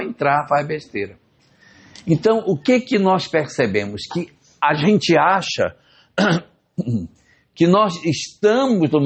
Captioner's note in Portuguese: limpando a garganta